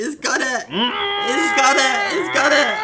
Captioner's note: muffled scream